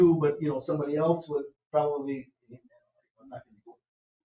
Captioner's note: speaks distantly